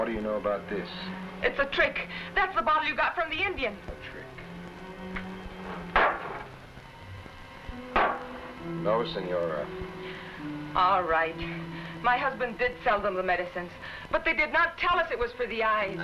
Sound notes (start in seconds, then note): 6.0 bottles thudding